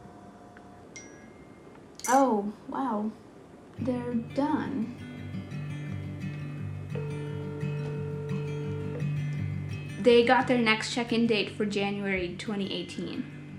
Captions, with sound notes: (phone pings) Oh, wow. They're done. (phone line trilling) They got their next check in date for January 2018.